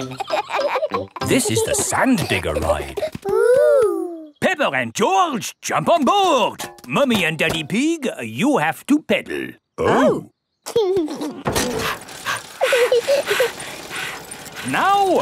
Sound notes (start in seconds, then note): 0.0 kids laughing; 11.6 daddy pig panting; 11.7 chuckles; 11.7 mummy pig panting; 12.9 peppa chuckles